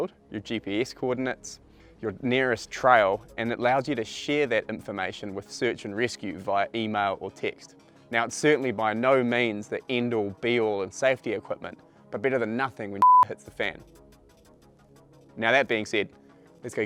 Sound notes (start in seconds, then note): 13.0 beep